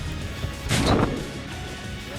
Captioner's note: gun Shot